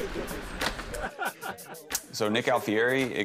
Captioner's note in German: Erwartungsvolle Musik; Jemand lacht